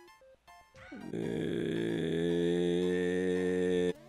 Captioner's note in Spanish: Sonido de frustración